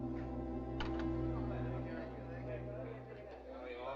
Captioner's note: chattering